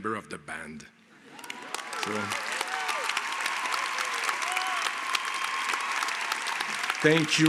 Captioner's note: applause